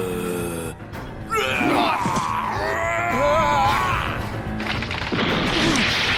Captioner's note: barbaric snarling; loud crashing